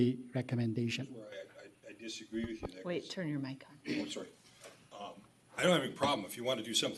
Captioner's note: clears throat